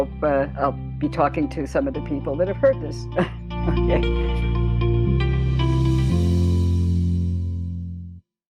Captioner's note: chuckle